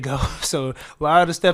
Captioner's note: chuckles